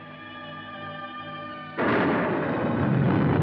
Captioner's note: thunder